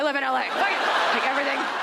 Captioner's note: audience laughs